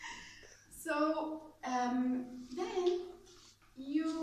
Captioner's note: laughs